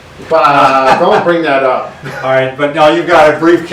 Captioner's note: laughs